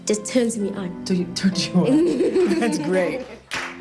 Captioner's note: laughs